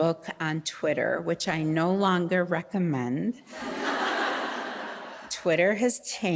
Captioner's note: audience laughing